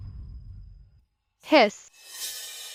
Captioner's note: hiss